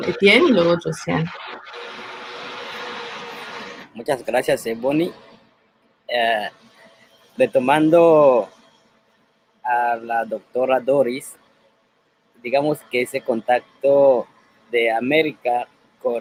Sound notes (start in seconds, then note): 4.0 speaking Spanish